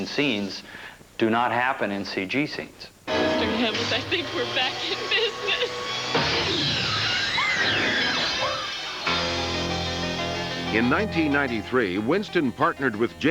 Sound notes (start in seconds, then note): 6.2 snarling; 6.3 screaming